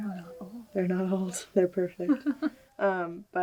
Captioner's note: laughs